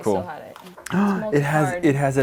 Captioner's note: gasps